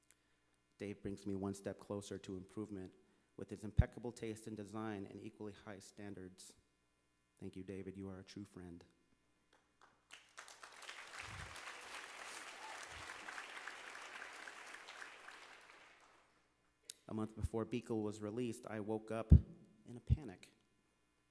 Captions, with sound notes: Dave brings me one step closer to improvement with his impeccable taste in design and equally high standards. Thank you Dave, you are a true friend. (Applause). A month before Beekle was released, woke up in a panic.